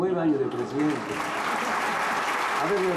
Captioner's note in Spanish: Aplausos